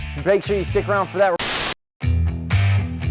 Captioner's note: static; rock music